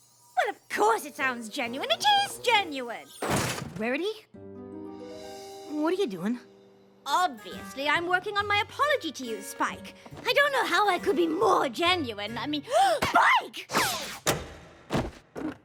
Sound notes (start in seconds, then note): 12.6 gasp